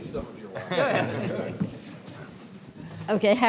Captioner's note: panelist laughing